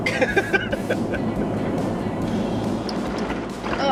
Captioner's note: laughs